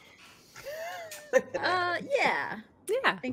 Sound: laughing

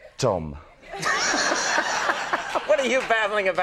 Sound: crowd laughs

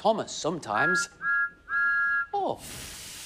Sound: thomas whistles

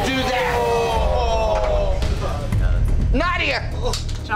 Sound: all groaning

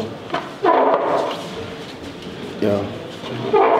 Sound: bench sliding

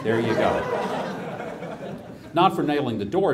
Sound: audience laughs

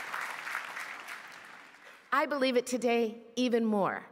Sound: applause

